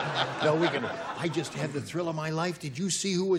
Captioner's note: laughter